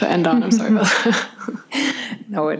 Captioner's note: laughter